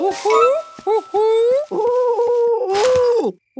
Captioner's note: cooing